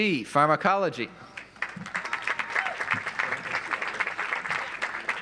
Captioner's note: audience applauds